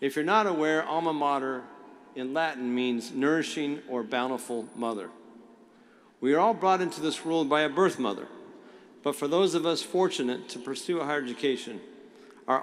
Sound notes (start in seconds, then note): none